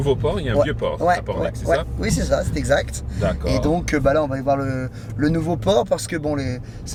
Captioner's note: men continue conversing in foreign language